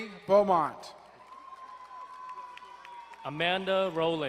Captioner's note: crowd cheering and applauding